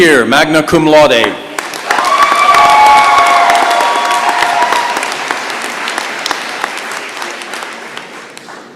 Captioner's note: cheering and applause